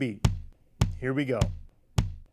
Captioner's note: simulated heart beat sound